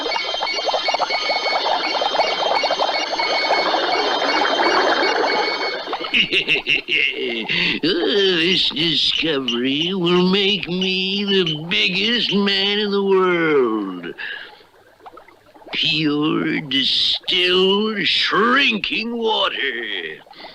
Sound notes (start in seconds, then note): 6.0 Simon Bar Sinister Laughs